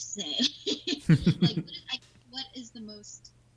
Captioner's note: laughing